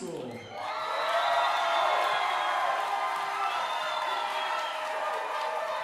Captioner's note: audience cheering and applauding